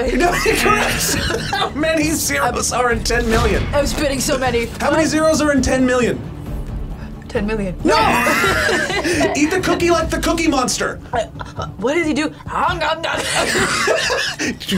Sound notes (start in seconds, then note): 0.1 laughs; 7.9 both laugh; 13.2 both laugh